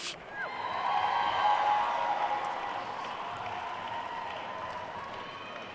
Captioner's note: attendees cheering and applauding